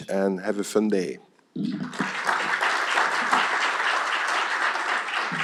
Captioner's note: applause